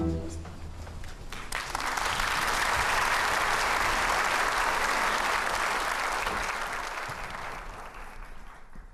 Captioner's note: applause